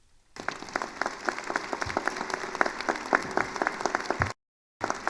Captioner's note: attendees applauding